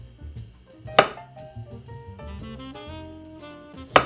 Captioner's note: knife cutting